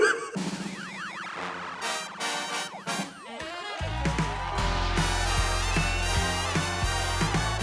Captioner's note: laughs; playful upbeat music; audience cheering